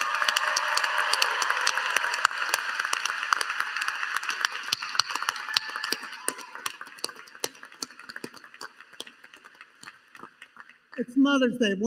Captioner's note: applause